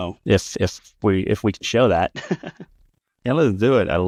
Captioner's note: laughs